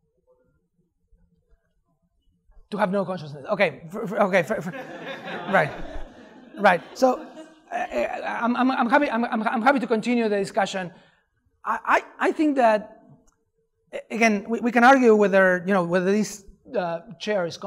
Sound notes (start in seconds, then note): 4.5 laughter